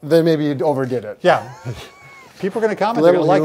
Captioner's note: both laughing